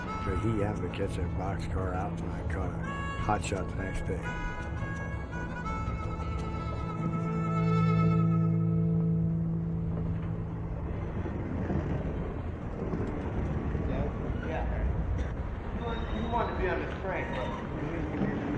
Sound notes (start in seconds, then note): 6.9 music concludes; 9.9 train rumbles